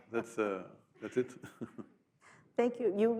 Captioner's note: laughs